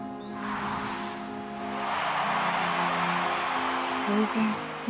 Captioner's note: crowd cheering